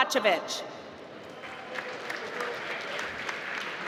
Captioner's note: applause